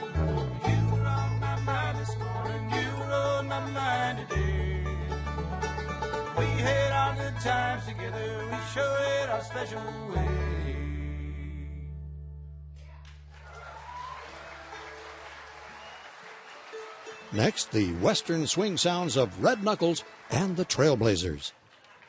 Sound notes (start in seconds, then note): 12.9 applause, cheering; 17.4 voiceover